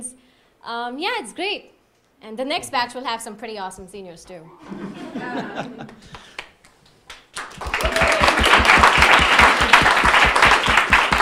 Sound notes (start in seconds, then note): 4.6 audience laughing; 7.1 audience applauding